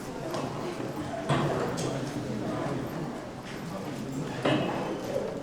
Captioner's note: students chattering